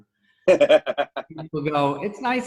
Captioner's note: laughs